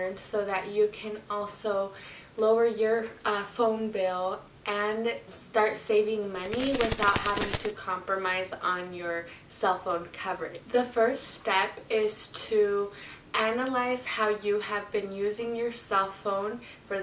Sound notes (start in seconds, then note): 6.4 coins clinking